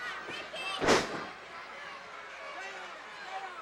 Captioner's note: floor banging